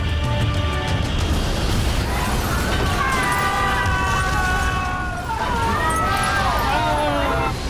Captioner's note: sinister music; humming; passengers screaming